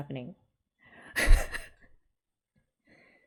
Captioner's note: laughs